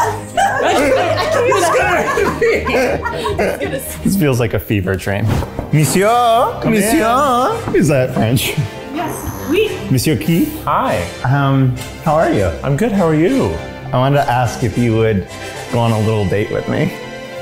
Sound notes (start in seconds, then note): 0.0 all laughing hysterically; 5.2 knocking